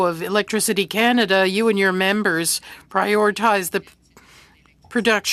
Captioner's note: speaking French